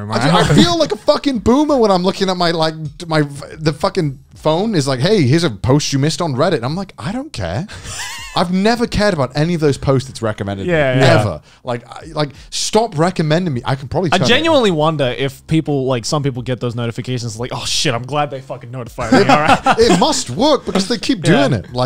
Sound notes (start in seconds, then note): 19.1 both chuckling